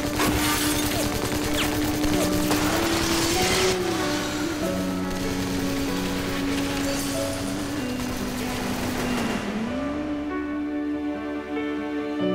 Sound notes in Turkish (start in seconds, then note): 0.7 Silah sesleri